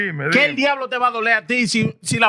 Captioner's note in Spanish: Hablando en idioma extranjero